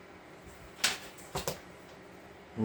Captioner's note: flips book